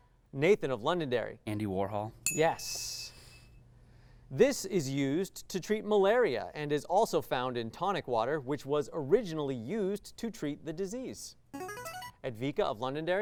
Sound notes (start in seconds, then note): 2.2 ding; 11.5 signaling device tone